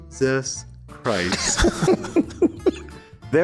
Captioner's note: chuckles